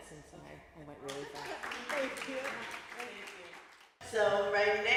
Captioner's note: applause